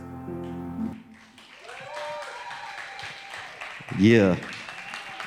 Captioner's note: audience applauds